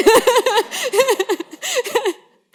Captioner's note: laughter